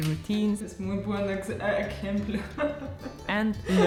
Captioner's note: speaking Spanish